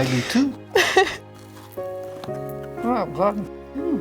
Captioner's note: laughing